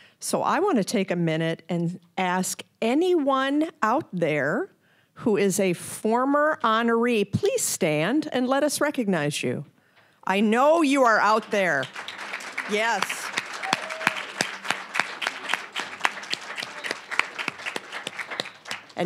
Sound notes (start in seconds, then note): 11.0 applause, cheering; 11.8 applause; 15.3 applause